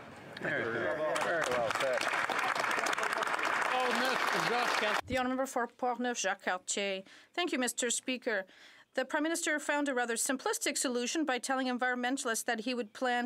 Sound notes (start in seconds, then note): 4.4 some Applause